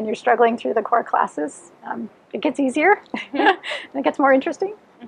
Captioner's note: laughs